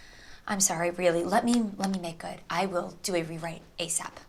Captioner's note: none